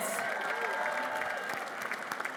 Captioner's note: applause